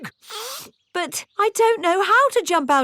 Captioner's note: sniffs